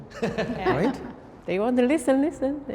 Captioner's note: man laughs